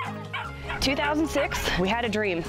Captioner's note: puppies barking